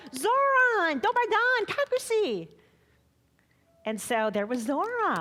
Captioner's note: speaking foreign language